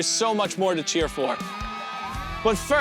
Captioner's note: crowd cheering